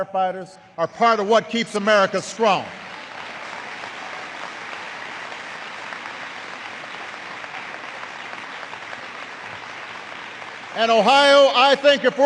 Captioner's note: applause